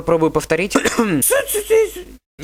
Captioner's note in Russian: кхм-кхм